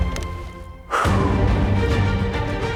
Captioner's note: exhales sharply; dramatic music continues